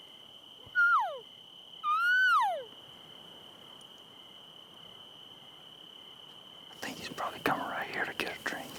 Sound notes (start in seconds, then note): 2.0 elk calling